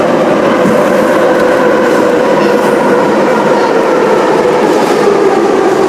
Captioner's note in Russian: торможение - прибытие на станцию